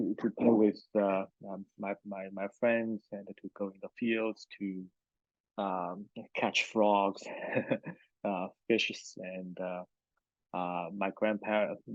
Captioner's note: laughs